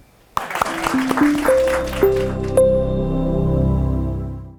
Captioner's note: audience applauding; gentle music